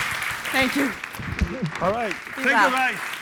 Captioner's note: audience applauding